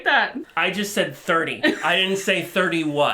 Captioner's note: chuckles